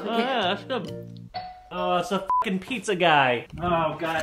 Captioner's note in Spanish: timbre de la puerta